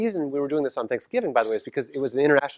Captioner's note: cough